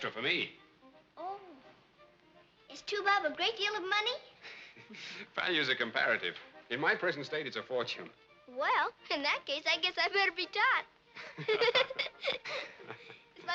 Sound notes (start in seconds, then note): 4.4 laughs; 11.2 all laughing